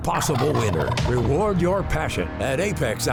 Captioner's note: turkey gobbling